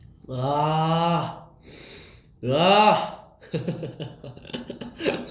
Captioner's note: sniff